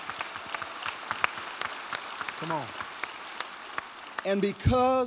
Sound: cheers and applause

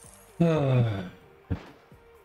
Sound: groans

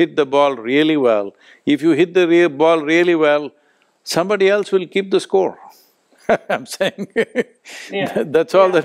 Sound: laughs

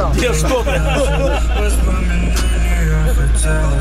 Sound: смех

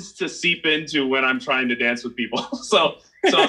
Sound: laughs

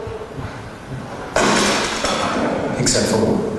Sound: buzzing; smash

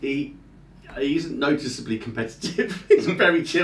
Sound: laughing

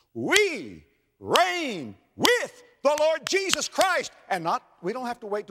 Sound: clap; clap

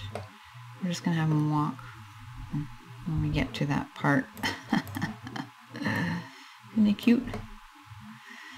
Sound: chuckle

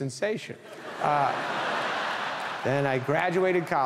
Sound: audience laughing

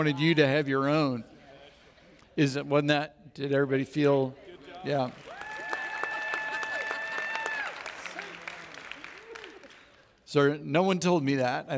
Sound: audience Applauds

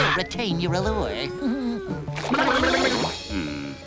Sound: giggling

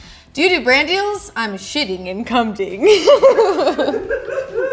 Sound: laughs

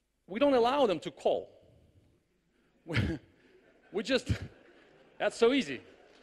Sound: laughs; clapping in the audience

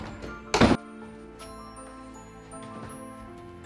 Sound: door thudding

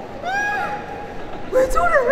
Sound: disgusted

